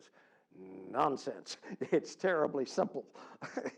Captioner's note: laugh